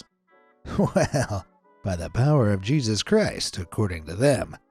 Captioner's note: chuckles